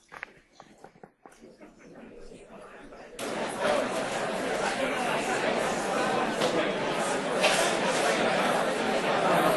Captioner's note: class chatter